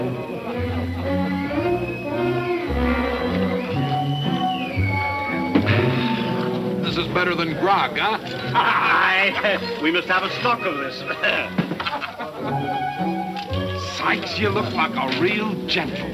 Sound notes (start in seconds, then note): 0.0 men chattering; 0.2 lighthearted music; 8.2 men laughing